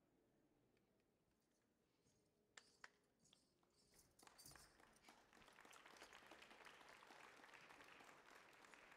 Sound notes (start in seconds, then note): 4.8 audience applauding